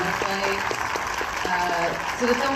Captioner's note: applause